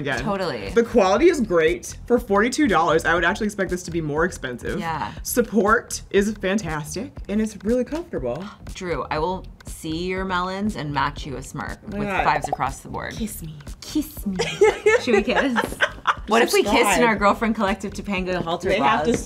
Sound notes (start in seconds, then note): 14.3 laughter